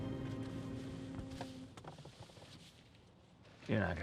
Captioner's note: boat horn blaring